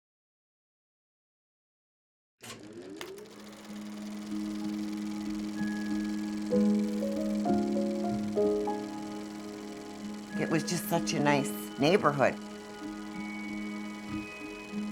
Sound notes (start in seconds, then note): 2.5 projector whirring